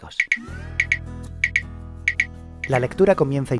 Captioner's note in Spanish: Sonidos Click